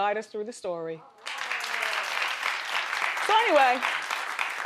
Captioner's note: crowd applauding